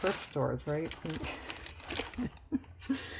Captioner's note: laughs